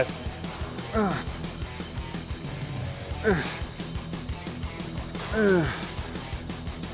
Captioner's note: upbeat rock music continues; Sheamus grunting